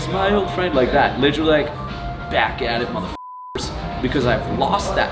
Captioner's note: beep